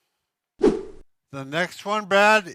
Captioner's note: whooshing noise